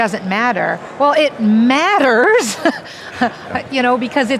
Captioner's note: laughs